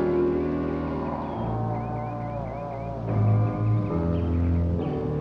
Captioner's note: creature groaning